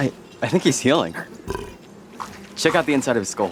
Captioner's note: Slurp burps